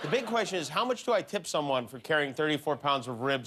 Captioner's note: laughter